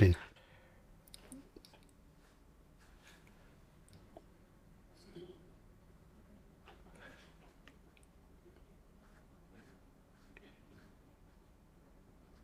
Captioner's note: silence